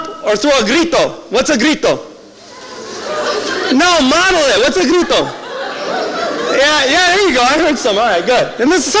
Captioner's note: yelling